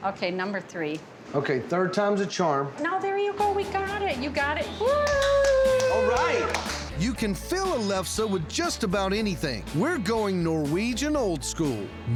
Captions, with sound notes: OKAY, NUMBER THREE... - OKAY, THIRD TIME'S A CHARM. - THERE YOU GO, YOU GOT IT! WHOO! [CLAPPING] ALRIGHT! YOU CAN FILL A LEFSE WITH JUST ABOUT ANYTHING. WE'RE GOING NORWEGIAN OLD SCHOOL...